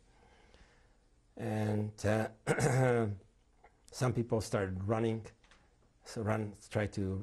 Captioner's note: clears throat